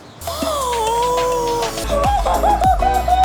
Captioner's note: gasps; exciting music